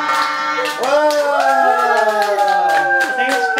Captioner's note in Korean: 와아아